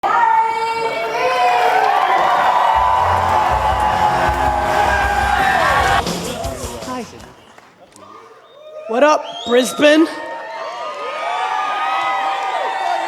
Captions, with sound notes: (woman announcing speaker) (audience cheering) - Hi. - Woo! - What up, Brisbane? (audience cheering)